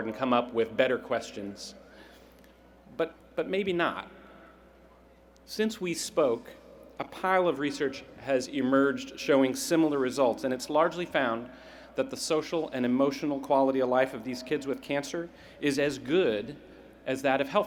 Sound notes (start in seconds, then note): none